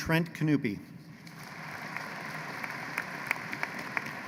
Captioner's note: applause